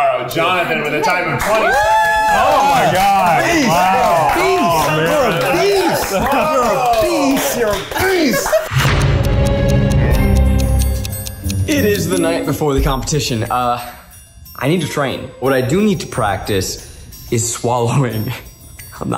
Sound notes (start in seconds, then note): 4.0 cheering; 8.7 suspenseful music